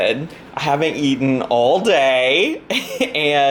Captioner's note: laughs